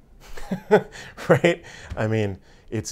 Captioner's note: laughs